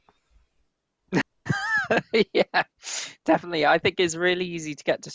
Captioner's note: laughs